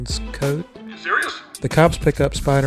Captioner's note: Jameson voice